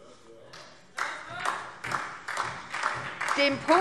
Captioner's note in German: Beifall SPD